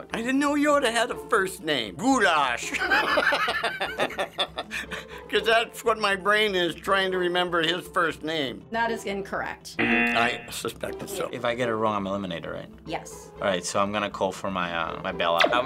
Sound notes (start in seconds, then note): 3.5 laughing; 9.8 buzzer